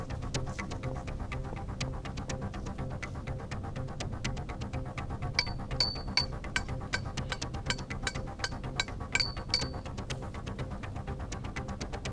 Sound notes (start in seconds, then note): 5.4 metal clanging